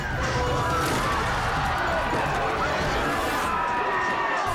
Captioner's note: crowd cheering